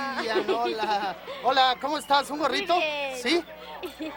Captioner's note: speaks in foreign language